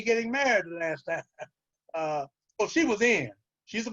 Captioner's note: chuckles